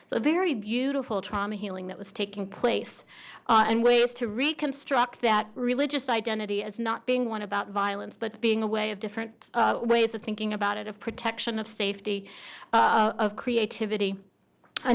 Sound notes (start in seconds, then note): none